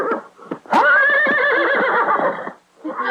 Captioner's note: neighing